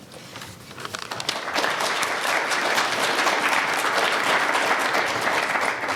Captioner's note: audience applauding